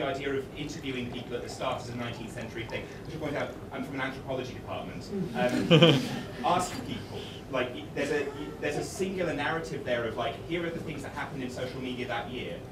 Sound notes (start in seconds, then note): 5.4 laughter